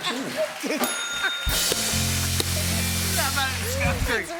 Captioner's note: ding!